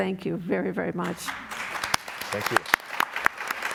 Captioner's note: applause